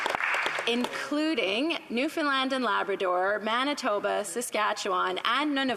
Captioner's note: applause